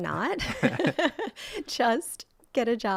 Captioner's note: laughs